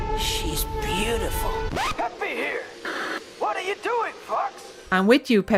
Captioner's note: record scratch